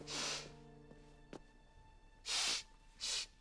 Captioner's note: sniffling